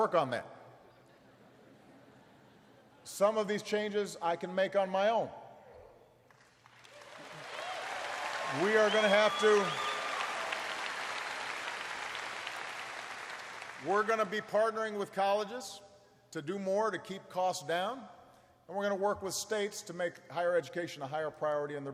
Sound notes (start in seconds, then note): 1.1 laughter; 5.9 applause